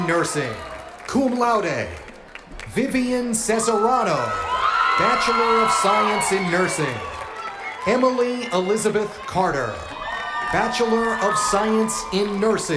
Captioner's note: cheers and applause